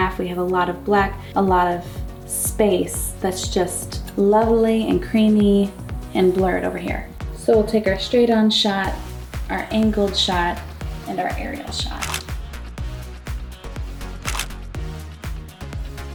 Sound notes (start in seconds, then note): 12.0 camera shutters; 13.3 upbeat music